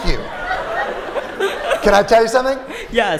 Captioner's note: laughter